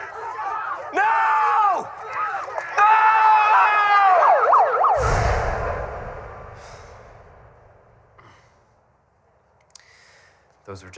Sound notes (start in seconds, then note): 5.6 sirens